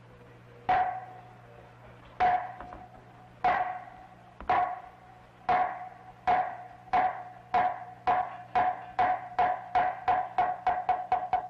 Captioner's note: striking wood block